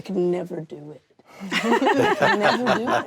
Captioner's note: laughter